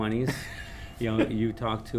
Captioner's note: laughs